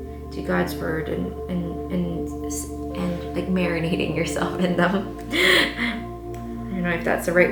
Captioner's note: laughs